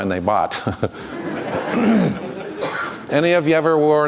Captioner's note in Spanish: Risas